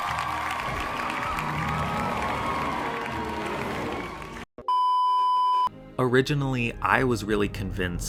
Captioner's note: cheering